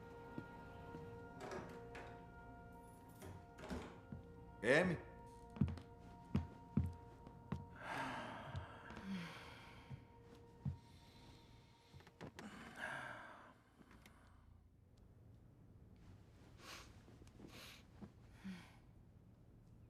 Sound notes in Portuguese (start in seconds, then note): 1.2 porta se abre, chaves tilintam, porta se fecha; 7.8 suspiro